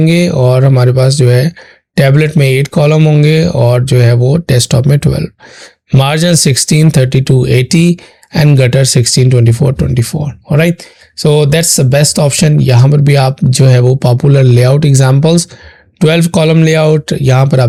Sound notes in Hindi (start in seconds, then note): 6.0 नाक से की जाने वाली आवाज़